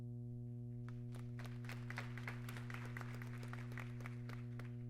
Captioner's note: applause